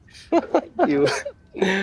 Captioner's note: giggling